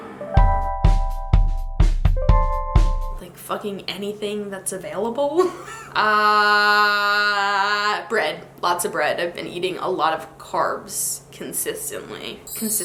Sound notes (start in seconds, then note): 0.0 mellow music; 5.4 laughs